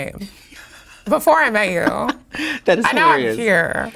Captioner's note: Sasha laughing